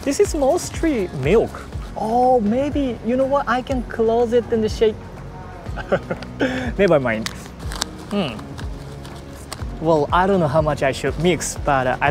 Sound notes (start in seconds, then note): 5.7 chuckles